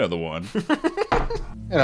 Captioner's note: laughing